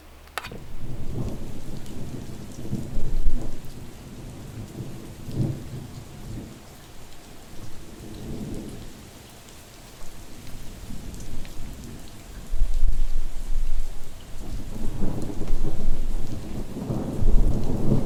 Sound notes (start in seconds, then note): 0.5 thunder rumbling; 0.7 rain pattering